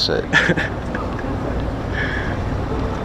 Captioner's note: laughs